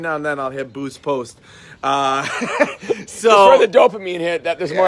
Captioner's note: laughing